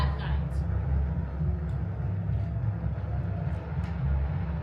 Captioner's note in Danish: radioknatring